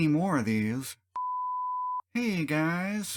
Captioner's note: beep